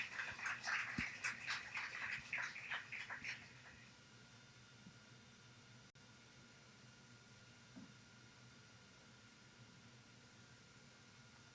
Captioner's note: applause